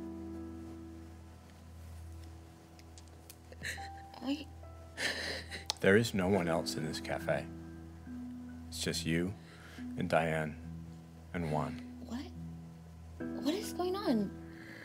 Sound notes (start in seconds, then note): 4.1 crying